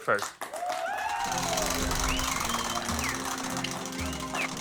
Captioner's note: cheers and applause